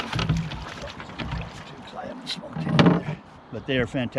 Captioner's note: fish splashing